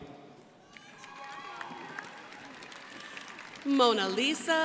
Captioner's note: crowd applauding